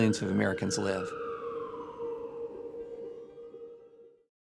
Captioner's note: siren blaring